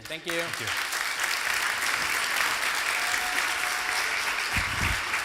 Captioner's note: applause